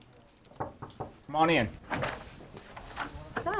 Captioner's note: knock on door